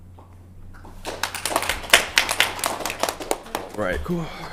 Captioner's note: applause